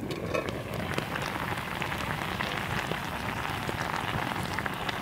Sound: juices sizzling

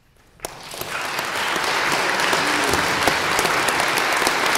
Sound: audience applauds

